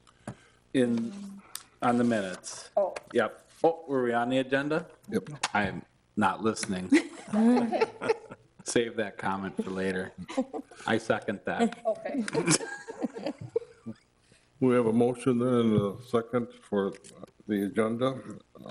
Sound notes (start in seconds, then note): 6.8 board members laughing; 12.2 board members laughing